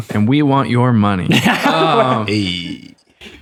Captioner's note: laughter